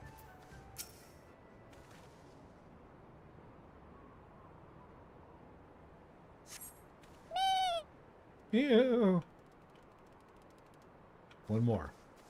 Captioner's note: meow